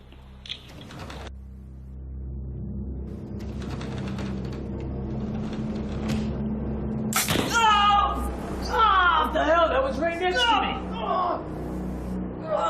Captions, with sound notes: (ominous music) (screams) What the hell, that was right next to me.